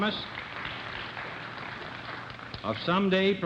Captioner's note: applause